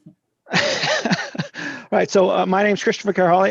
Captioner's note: laughing